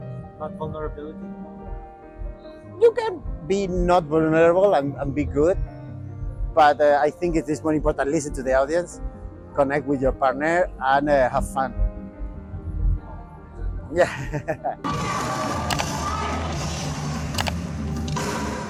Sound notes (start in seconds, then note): 14.0 giggle; 18.5 drums